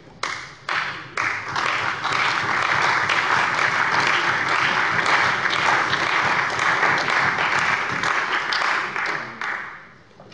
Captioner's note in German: Beifall bei der CDU und dem BÜNDNIS 90/DIE GRÜNEN